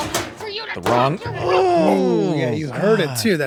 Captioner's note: grunts